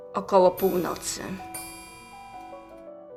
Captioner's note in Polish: bicie zegara